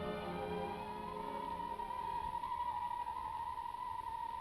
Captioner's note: wind whispering